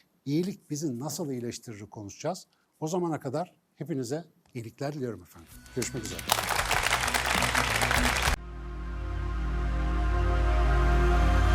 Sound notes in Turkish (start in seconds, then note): 8.6 alkış